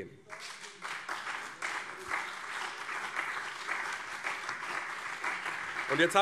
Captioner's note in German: Beifall